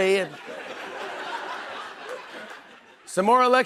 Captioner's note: laughter